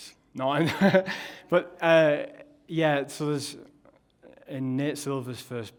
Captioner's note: laughs